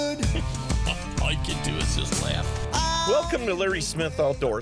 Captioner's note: laughing